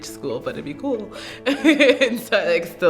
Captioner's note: laughs